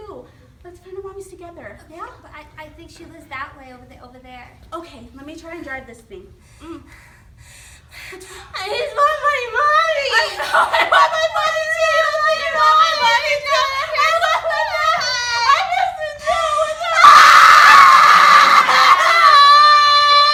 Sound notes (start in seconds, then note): 14.3 sobbing